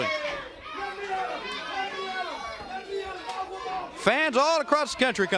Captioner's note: crowd chatter